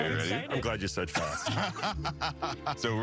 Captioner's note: all laughing